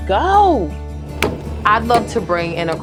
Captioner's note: hammer banging